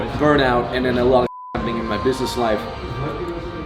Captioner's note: beep